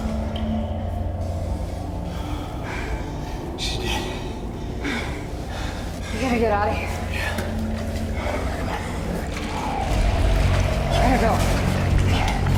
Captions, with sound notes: SHE'S DEAD. WE GOT TO GET OUT OF HERE. YEAH. COME ON. [ CREATURE GROWLS ] WE GOT TO GO.